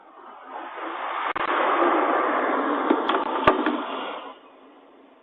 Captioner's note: snow plow roars